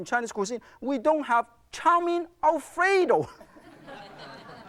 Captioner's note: crowd laughs